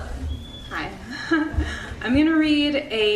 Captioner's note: chuckles